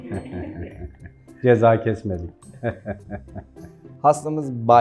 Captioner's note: laughs